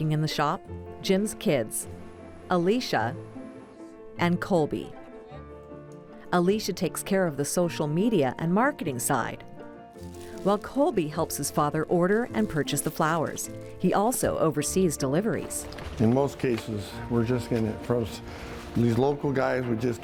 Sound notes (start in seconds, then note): none